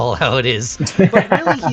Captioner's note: laughing